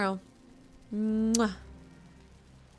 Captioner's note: kiss